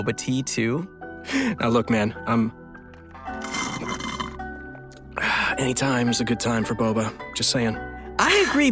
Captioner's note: sipping tea sound